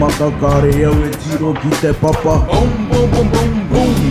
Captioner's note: non-english speech